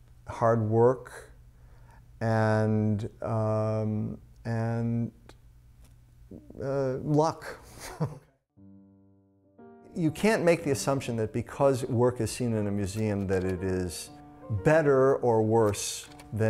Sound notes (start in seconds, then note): 7.7 laughter